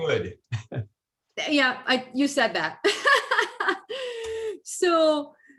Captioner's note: laughs